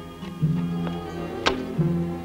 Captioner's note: bangs; dramatic music